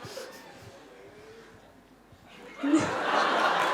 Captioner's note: laughter